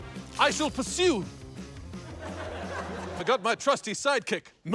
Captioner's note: milk splashes